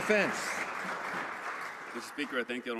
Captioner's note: some Applause